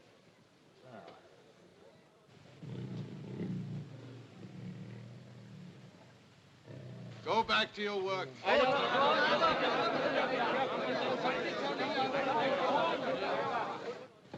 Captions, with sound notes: (tiger growls softly) - Go back to your work! (excited chatter)